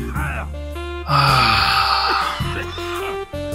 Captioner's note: sighs heavily